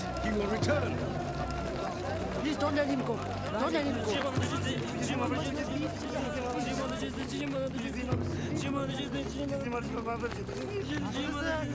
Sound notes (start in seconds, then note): 3.2 pleading In Tibetan